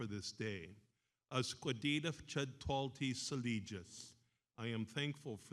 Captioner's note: speaks in foreign language